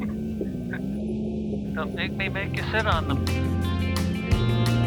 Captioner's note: chuckles